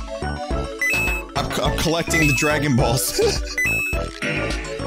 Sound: nervous, bewildered laughter

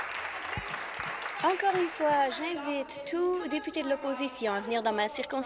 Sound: applause

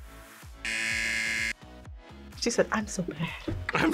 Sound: buzzer

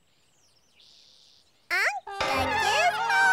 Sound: in a high voice

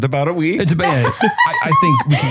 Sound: laughs

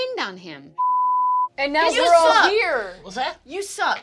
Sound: beep

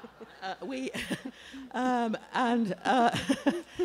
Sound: laughter

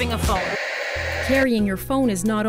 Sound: static

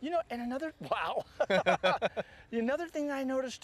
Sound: laughter

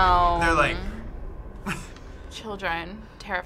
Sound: laughs

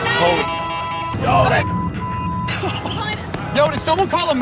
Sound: beep

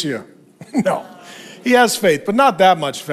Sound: chuckles

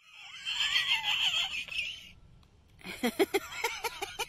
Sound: woman laughing

